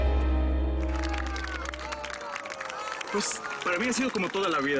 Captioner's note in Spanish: Aplausos